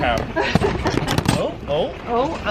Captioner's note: laughing